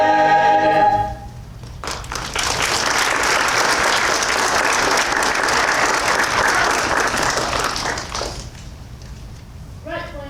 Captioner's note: applause